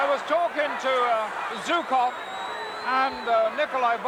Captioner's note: crowd boos